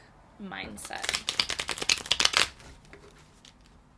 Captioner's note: loudly re-shuffling